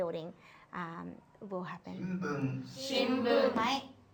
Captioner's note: man on recording speaks japanese